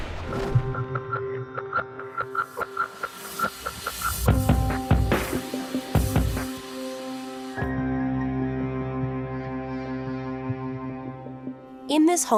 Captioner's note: voice-over